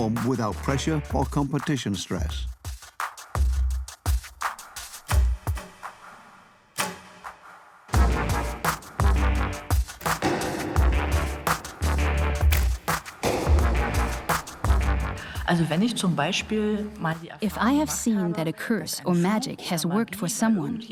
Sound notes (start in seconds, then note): 5.4 arrows firing; 7.7 arrows striking target; 15.2 speaks German